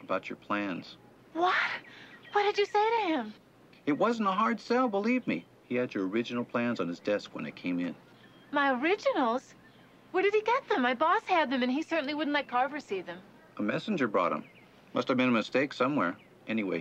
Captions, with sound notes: A little fresh air might get me sleepy. That sounds good. Let's go. I'll meet you at the apartment, Larry. LARRY: Right. - Take care, Larry. [mechanism hums]